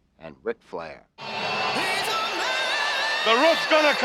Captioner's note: audience roars